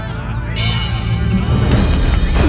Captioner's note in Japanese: ゴングの音